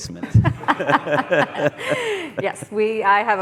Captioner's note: laughing